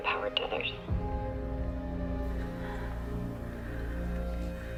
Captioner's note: breathing deeply